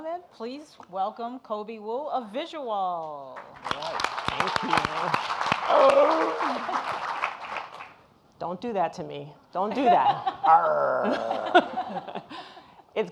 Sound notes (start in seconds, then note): 3.4 audience applauding; 5.7 grunting; 10.4 grunting